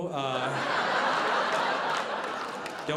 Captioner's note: audience laughing